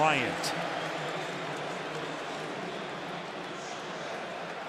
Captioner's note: pa announcement